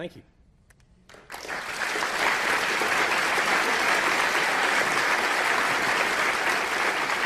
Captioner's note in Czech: potlesk